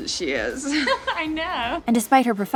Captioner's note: laughing